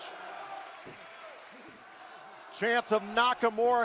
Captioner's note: crowd cheering